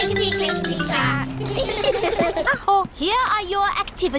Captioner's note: all giggle